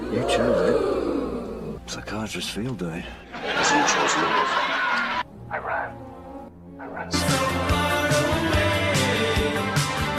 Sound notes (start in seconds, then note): 0.0 audience ooh sfx; 3.3 audience laugh sfx